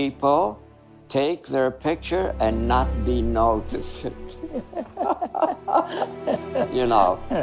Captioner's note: laughing